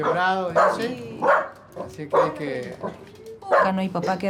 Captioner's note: dog barking